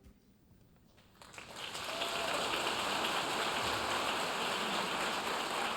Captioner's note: audience cheering and applauding